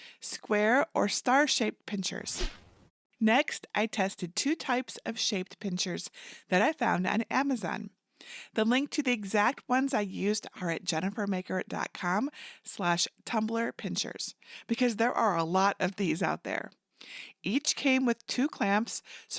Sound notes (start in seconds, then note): 2.3 air whoosh